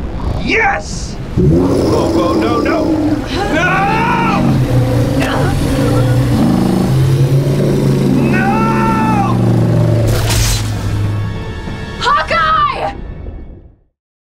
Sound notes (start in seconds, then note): 5.1 groans